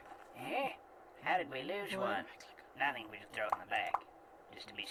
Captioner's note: whispering